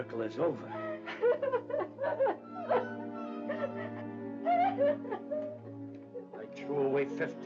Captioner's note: Mrs. Amendola sobs